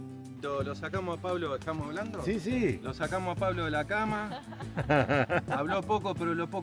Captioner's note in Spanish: risas